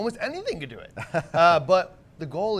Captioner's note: man in blue laughs